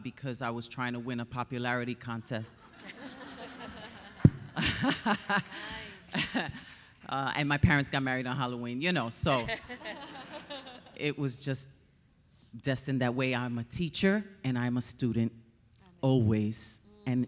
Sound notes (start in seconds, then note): 2.2 laughing; 2.9 audience cheering; 9.4 audience laughing